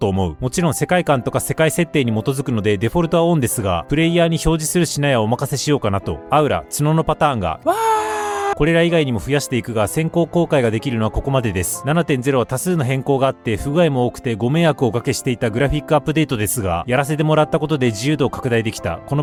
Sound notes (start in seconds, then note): 7.6 huge cheer